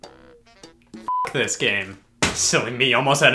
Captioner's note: beep